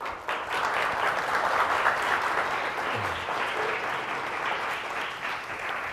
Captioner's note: clapping